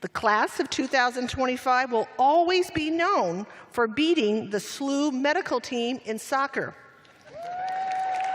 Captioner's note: cheers and applause